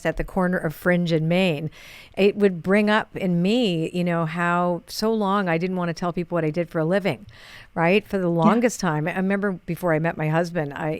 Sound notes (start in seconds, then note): none